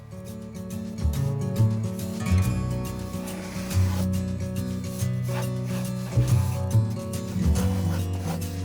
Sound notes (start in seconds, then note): 0.1 light guitar music; 2.8 pencils scraping